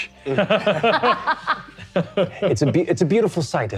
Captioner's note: all laughing